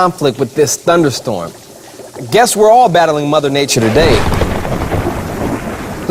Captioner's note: thunder